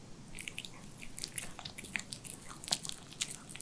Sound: slurping

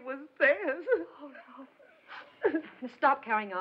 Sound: sobbing

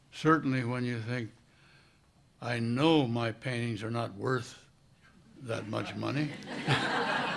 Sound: laughter

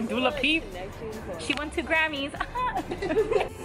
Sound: laughs

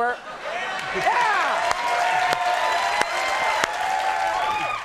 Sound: audience clapping

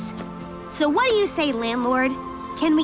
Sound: none

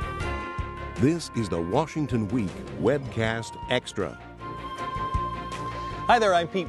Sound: voiceover

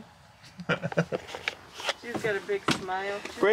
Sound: man laughs

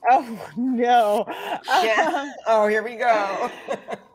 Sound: laughing

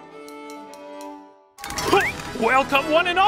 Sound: baton taps

